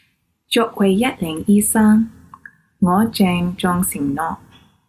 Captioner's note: speaks in foreign language